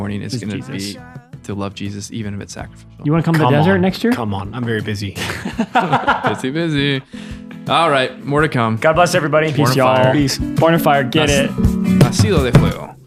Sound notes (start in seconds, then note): 5.2 laughing